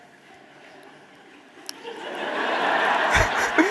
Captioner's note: audience laughing